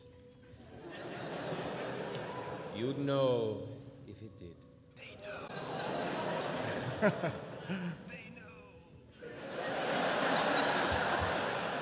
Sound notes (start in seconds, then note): 0.7 laughter; 5.6 whispers